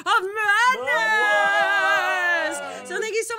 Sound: cheering

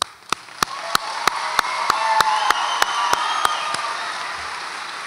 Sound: audience applauds and cheers

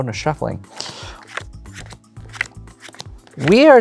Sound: cards slap on table

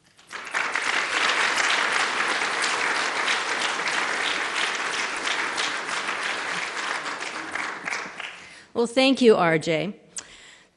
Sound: applause

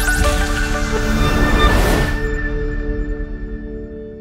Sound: swoosh

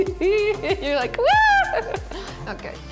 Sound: laughing; squealing

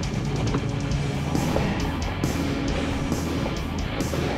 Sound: plane humming

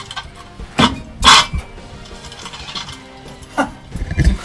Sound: metal clangs

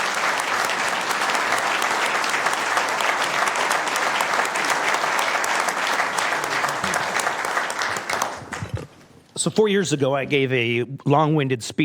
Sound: applause

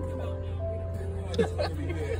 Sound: laughter

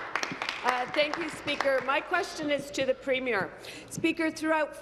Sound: applause

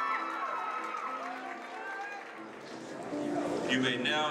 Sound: audience cheering

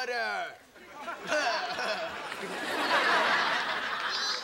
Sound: laughing

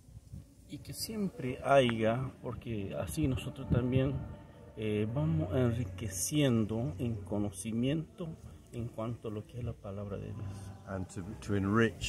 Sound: Spanish

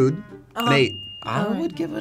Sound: bell dinging

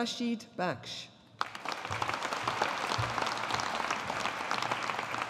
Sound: audience applauding

